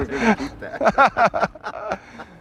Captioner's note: laughter